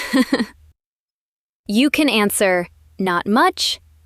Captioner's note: laugh